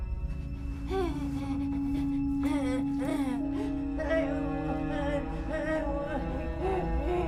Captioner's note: staggered breathing